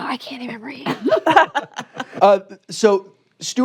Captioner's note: laughter